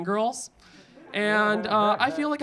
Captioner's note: audience laughing